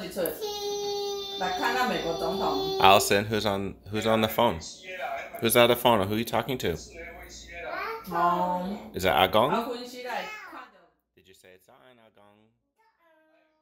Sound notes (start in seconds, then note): 6.8 man on phone speaking foreign language